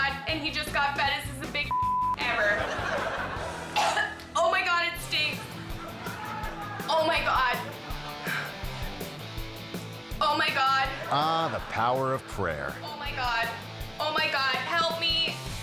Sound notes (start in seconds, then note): 1.7 beep; 2.2 audience laughing; 3.7 pet owner choking; 5.1 audience laughing; 8.4 rock music; 10.8 audience laughing; 15.4 rock guitar rift